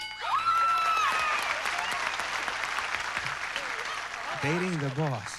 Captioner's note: cheers and applause